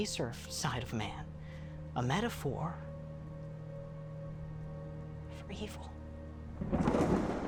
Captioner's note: inhales; thunder rumbling